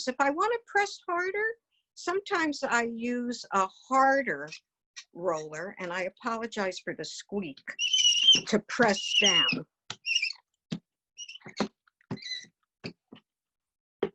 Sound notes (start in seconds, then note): 9.0 roller squeaking